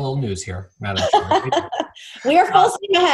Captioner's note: Chairwoman McDaniel laughing